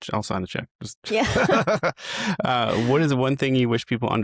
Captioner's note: laughs